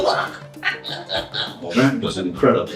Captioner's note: evil laugh